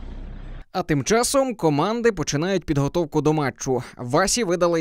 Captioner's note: voiceover